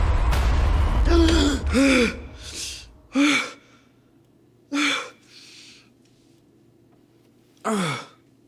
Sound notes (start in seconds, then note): 1.5 Alan gasping